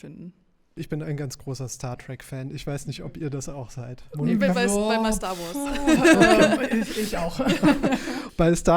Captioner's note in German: gelächter